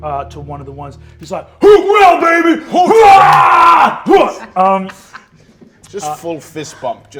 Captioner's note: roars